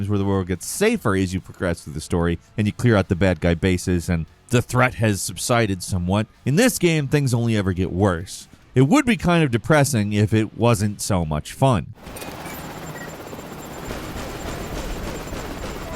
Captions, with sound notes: where the world gets safer as you progress through the story and you clear out the bad guy bases and the threat has subsided somewhat, in this game, things only ever get worse. It would be depressing if it wasn't so much fun. (gun firing)